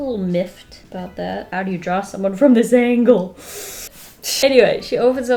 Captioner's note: deep inhale